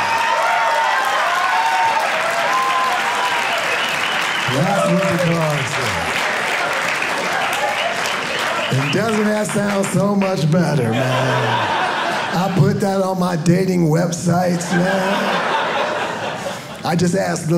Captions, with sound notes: (audience applauding) That's what the card say. (audience clapping) And doesn't that sound so much better, man? I put that on my dating websites, man. I just ask the ladies,